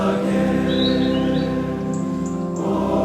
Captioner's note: birds chirping; bright piano music